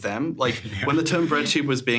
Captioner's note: chuckles